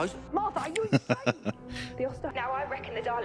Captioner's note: laughing